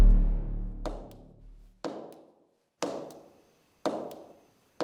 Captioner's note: loud banging